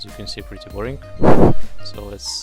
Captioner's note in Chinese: 喷麦x2